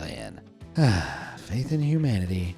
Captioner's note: sigh